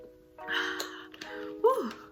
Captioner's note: sighs happily